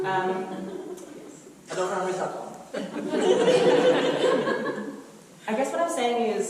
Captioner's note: audience laughter